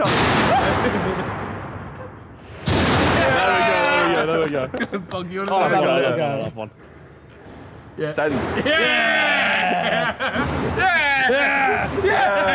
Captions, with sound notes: (metal clanking) - Yeah! - There we go, there we go, there we go. (all cheering)